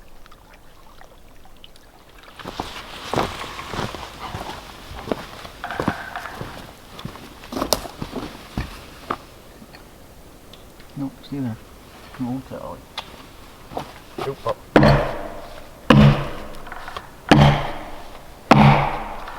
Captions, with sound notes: No, stay there, come on, Cali. (kisses) Stay, pup. (axe thudding) (thuds echoing)